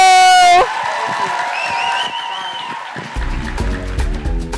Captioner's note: audience cheering; upbeat music